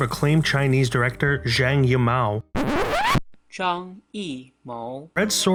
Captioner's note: record Scratch